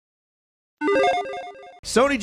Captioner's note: electronic chiming